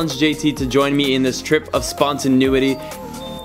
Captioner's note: doorbell rings